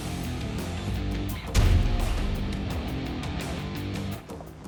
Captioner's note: thudding; slashing